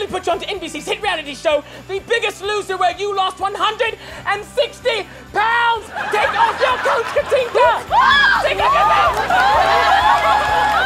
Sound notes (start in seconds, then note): 7.9 screams; 10.7 crying